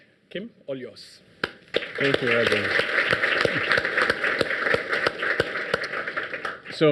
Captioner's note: audience applauds